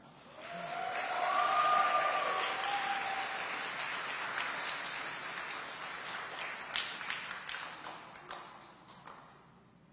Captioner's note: audience applauding and cheering